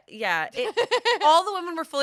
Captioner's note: laughs